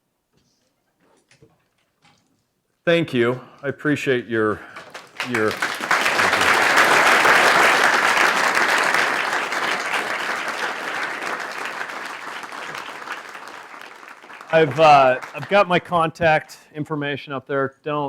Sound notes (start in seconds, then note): 4.8 applause